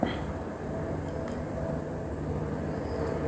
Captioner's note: clears throat